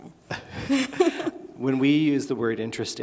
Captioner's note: laughing